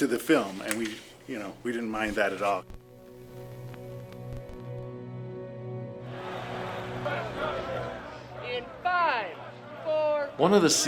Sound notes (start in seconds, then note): 3.1 people shouting faintly; 3.1 soft music